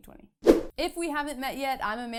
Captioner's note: air whooshing